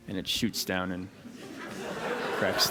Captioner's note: laughter